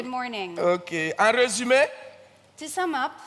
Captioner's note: continues in French